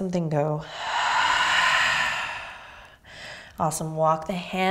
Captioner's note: exhaling